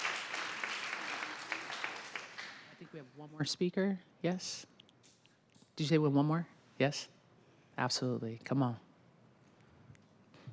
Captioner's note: applause